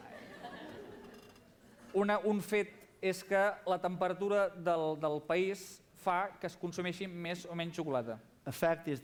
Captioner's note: non-english speech